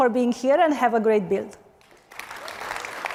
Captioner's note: applause